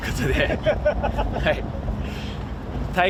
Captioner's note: A familiar laugh